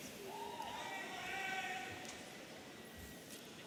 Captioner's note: audience cheering